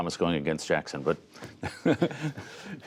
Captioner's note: laughter